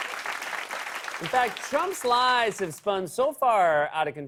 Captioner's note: applause; normal voice